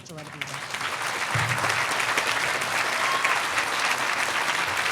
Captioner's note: audience applauding